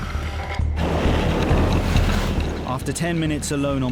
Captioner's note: waves crashing